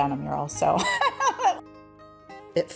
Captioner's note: laughs